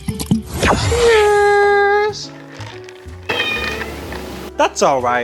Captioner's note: cat meowing